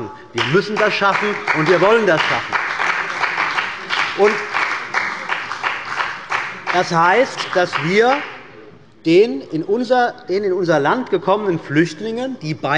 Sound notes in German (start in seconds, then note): 2.6 Beifall bei der CDU und dem BÜNDNIS 90/DIE GRÜNEN